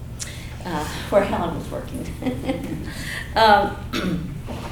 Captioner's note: chuckles